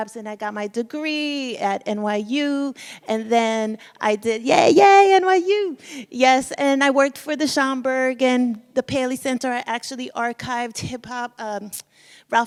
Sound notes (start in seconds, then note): none